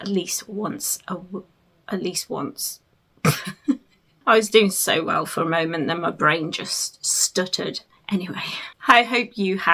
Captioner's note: laughs